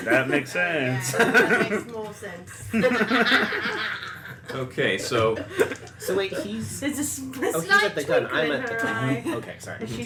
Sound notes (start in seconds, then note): 2.6 laughter